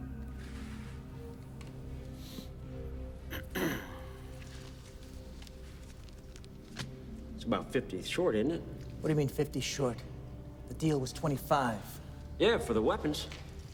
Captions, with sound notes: (Gammon clears throat) - It's about 50 short, isn't it? - What do you mean 50 short? The deal was 25. - Yeah, for the weapons.